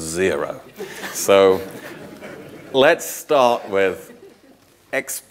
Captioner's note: audience laughing